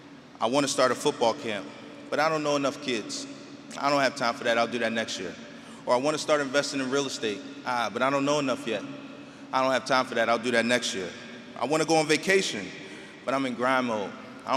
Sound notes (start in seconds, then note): none